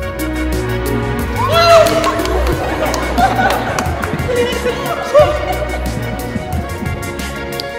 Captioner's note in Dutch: vier jongeren juichen